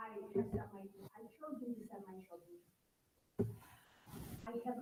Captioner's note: faintly speaking